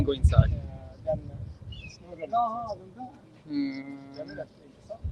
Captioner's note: speaking Swedish